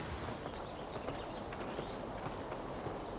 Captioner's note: birds chirping